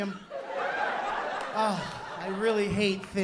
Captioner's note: laughter